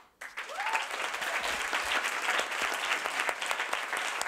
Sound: audience applauding

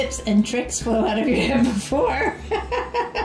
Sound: laughs

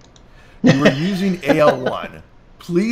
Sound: laughs

